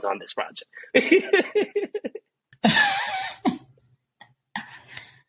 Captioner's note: background laughter